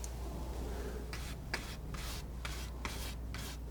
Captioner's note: scratching